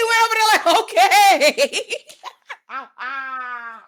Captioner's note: laughing